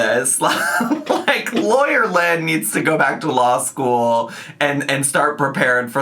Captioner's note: laughs